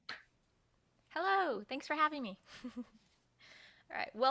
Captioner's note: chuckles